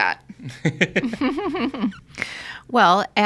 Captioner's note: all laughing